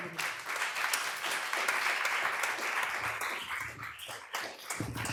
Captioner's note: applause